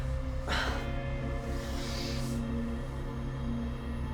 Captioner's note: Claire sighs